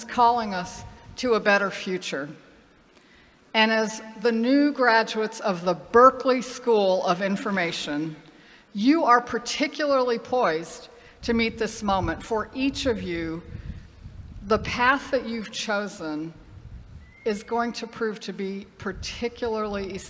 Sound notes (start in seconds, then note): none